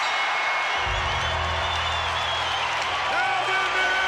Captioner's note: bell rings; crowd cheers; bell tolls